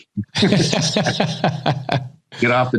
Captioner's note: laughs